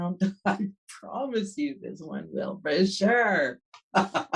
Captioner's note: laughs